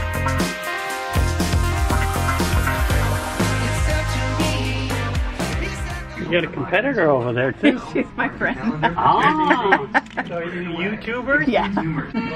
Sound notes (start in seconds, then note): 0.0 upbeat music; 7.6 laughs